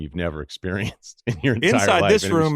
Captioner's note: laughs